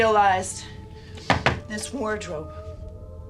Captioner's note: knocking on wardrobe